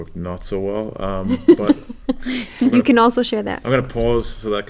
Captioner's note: laugh